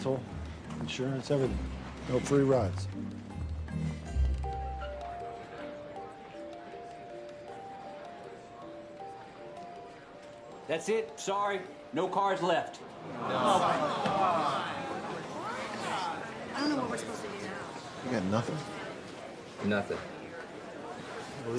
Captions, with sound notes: GAS, RENTAL, INSURANCE, EVERYTHING. NO FREE RIDES. THAT'S IT! SORRY, NO CARS LEFT. [ALL GROANING] I DON'T KNOW WHAT WE'RE SUPPOSED TO DO NOW. YOU GOT NOTHING? NOTHING.